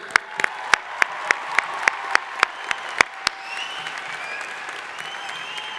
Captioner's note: crowd applauding; crowd cheering